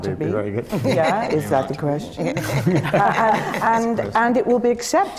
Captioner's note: laughter